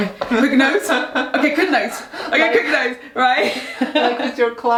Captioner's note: giggles